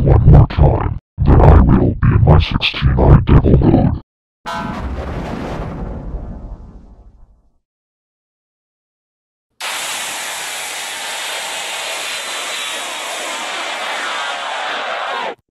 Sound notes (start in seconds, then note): 4.3 14-Eyed Devil Windows XP Shutdown Sound